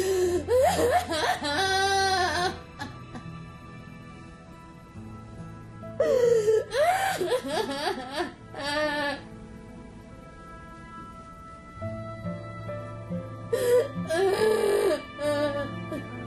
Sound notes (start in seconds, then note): 0.0 wailing